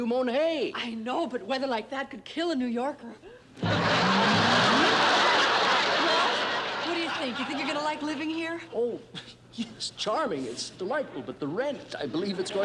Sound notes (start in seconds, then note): 3.6 laughter; 12.2 laughter